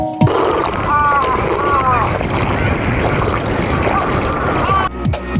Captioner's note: slurping